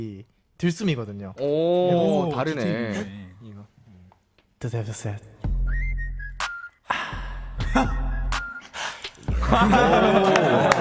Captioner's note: inhale; exhale